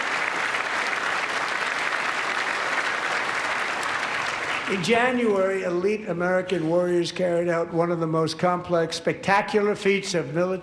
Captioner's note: applause